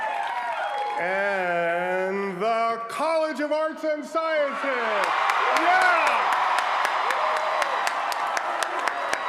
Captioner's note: applause